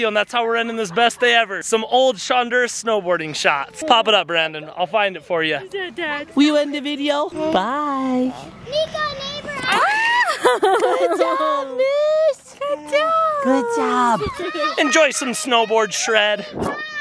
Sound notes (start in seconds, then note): 9.7 laughing